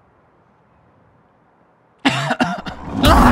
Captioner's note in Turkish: Öksürme